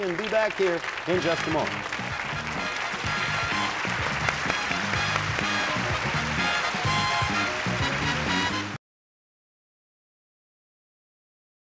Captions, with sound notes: and be back here in just a moment. -(theme music playing) -(cheers and applause)